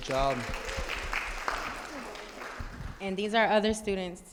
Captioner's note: audience applauding